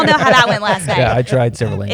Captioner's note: laughter